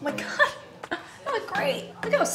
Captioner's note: chuckling